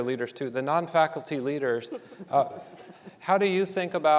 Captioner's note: audience giggling